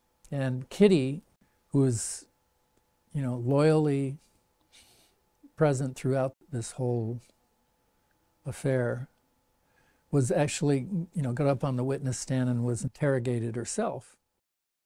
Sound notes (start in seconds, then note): none